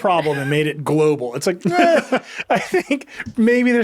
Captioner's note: laughing